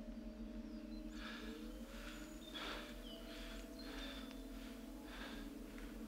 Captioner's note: man breathes heavily